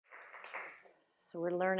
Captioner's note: audience applauding